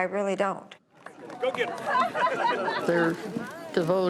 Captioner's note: laughing